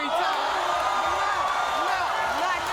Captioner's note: audience cheering